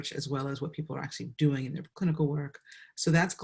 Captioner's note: none